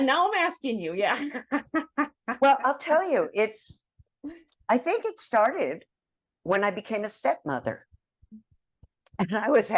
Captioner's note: laugh